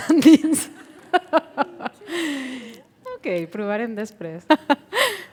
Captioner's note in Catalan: Riures